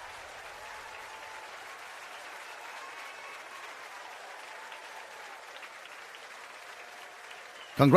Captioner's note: applause & Cheers